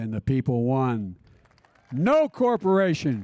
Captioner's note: applause